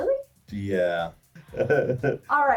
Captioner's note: laughs